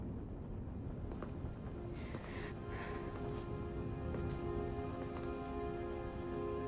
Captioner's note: soft somber music; Anna sighing